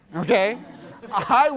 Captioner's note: class laughs